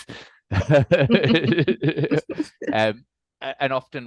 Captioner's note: group laughing